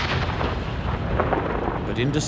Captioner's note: bomb explodes